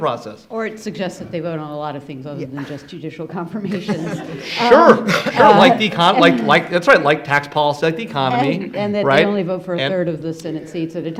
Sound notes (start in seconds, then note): 3.6 laughing